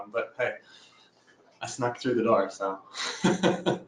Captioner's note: laughs